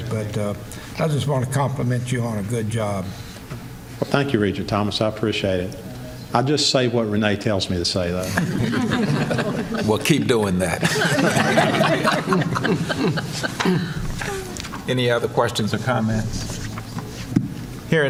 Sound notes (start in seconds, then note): 10.7 laughter